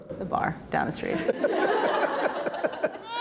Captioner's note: laughter